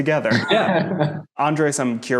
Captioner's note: laughing